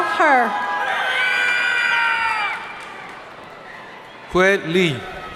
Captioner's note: audience cheering